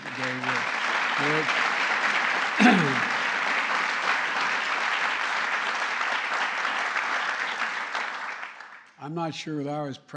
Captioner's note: applause